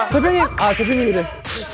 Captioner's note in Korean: 딸랑